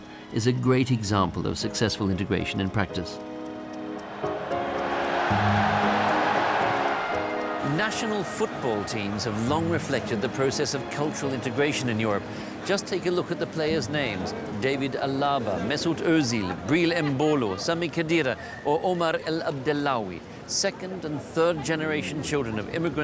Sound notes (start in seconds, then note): 4.9 crowd cheering